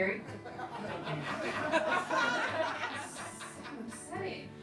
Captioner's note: laughing